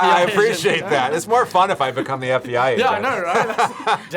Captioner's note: laughs